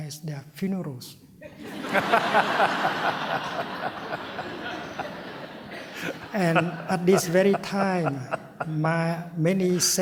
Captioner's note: laughter